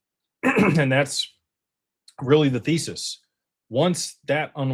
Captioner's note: clears throat